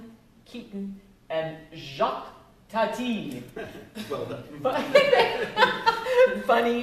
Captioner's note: laughs